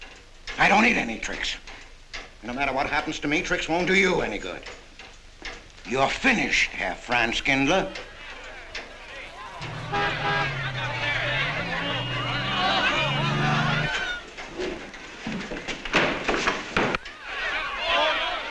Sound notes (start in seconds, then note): 7.9 people clamoring; 8.7 horn honks